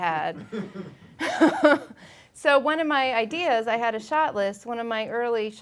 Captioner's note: laughing